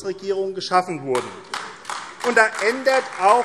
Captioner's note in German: Beifall AfD